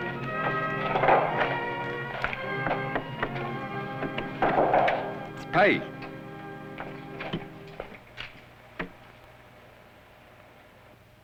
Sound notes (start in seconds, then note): 2.5 knocking